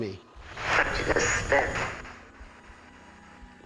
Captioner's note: spirit box voice